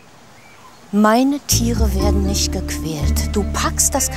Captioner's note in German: wütend